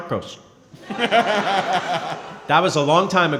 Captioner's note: & crowd laughing